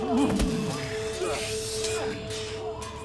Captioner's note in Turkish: İnliyor